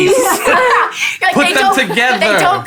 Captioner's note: laughing